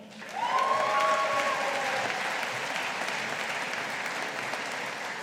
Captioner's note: audience applauding